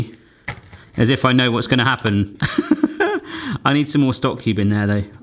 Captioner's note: laughing